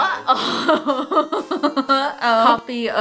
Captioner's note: laughs